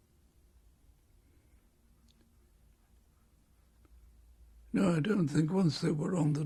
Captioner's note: pauses for 3 seconds